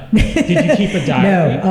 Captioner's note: laughter